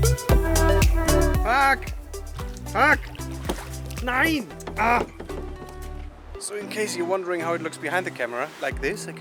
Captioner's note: cursing